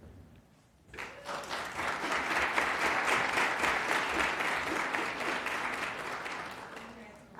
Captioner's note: applause